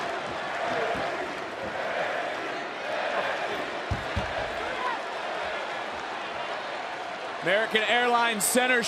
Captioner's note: crowd chants, "nxt"